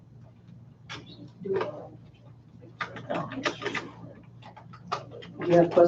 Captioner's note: board members whispering